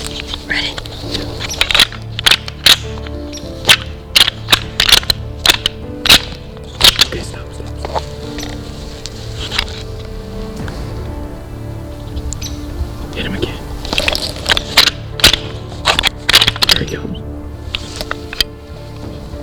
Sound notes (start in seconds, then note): 1.2 sound of rattling; 9.5 dramatic music; 14.3 sound of rattling; 19.2 dramatic music